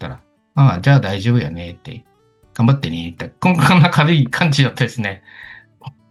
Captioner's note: laughs